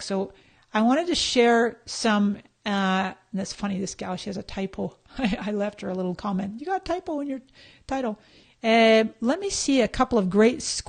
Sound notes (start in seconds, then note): 4.6 laughs